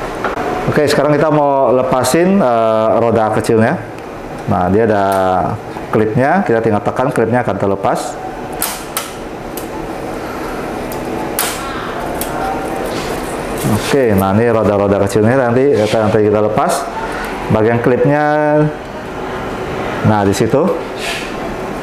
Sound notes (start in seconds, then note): 8.4 clip sound; 9.2 distant chattering; 12.7 small wheels sound